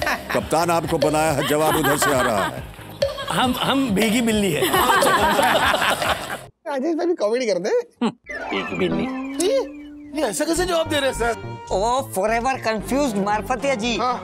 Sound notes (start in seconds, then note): 4.6 laughing